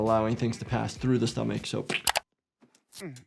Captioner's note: squish sound